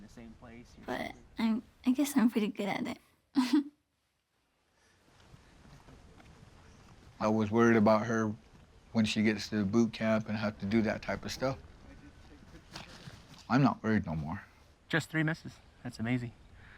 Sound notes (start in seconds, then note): 3.4 laughs